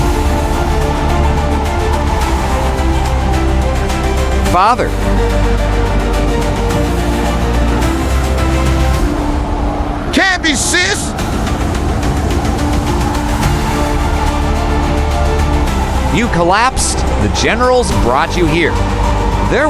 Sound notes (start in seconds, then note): 11.1 hoarse